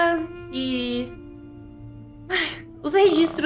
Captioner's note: sighs